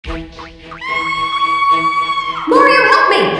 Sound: Peach screams

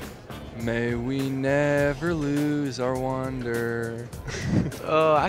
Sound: laughs

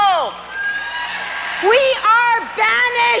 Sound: audience cheers

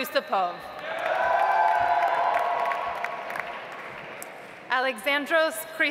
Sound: audience applauds

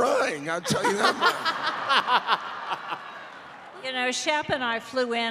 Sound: laughter

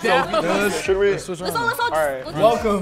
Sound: group chatters

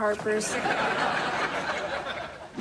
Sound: laughing

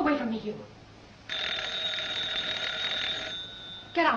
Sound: phone rings

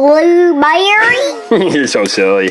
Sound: assistant Said With Silly voice

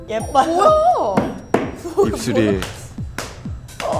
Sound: slapping

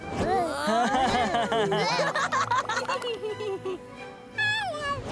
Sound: laughing

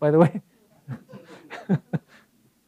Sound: laugh

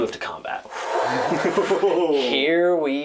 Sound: impressed noises from all

